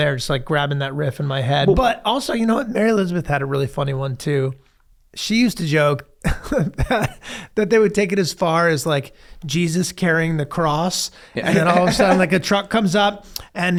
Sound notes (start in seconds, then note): 6.8 laughs; 11.4 laughs